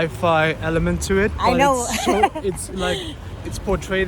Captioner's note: laughing